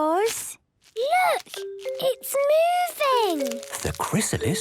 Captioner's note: whispering